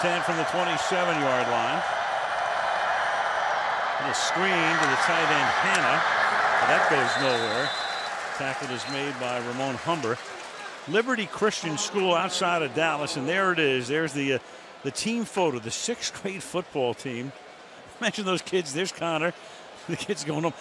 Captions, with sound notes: First and 10 from the 27-yard line. [cheering] And a screen to the side. And Hanna-- that goes nowhere. Tackle is made by Ramon Humber. Liberty Christian School outside of Dallas, and there it is. There's the team photo, the sixth grade football team. Mention those kids. There's Connor.